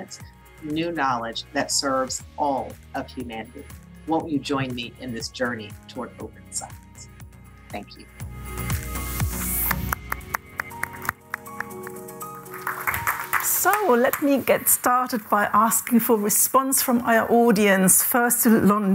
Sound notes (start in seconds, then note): 9.4 applause